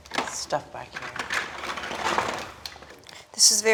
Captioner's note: lego blocks clacking